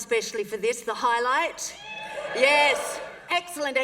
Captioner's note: cheering